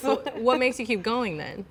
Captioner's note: laughs